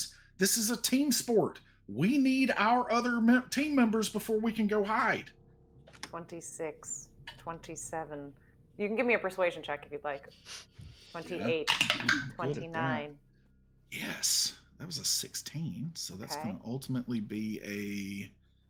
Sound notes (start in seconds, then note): 11.7 dice clacking